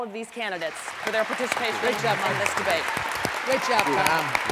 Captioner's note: applause, candidates shake hands with each other, moderator